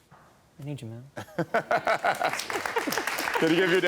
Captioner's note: all laughing